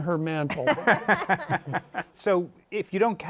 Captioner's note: laughter